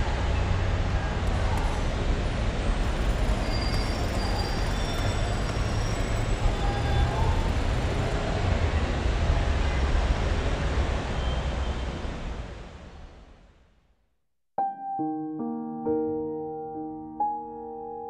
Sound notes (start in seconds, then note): 2.1 street noises continues; 14.6 soft piano music